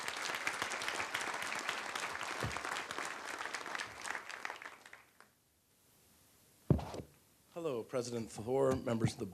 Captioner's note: applause